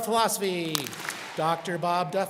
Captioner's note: students clap